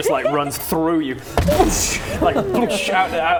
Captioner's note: boosh